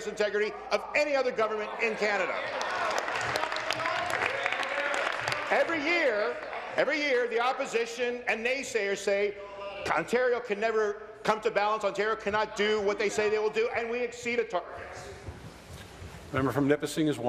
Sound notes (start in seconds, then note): 6.2 applause